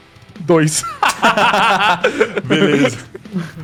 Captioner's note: laughter